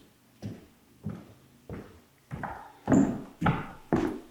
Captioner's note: footsteps tapping